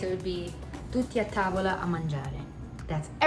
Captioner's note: speaking in Italian